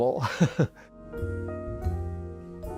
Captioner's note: upbeat music; laughs